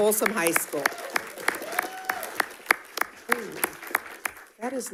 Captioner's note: audience cheering and applauding